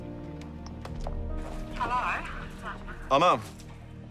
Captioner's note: on phone